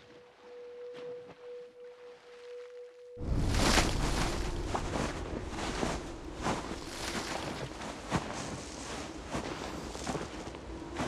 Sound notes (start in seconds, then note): 0.2 water splashing; 3.2 snow crunching